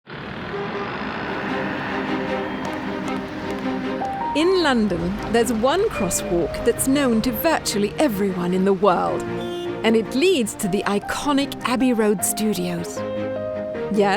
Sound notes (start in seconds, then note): 0.0 motorcycle revving; 0.4 car honking; 1.7 upbeat music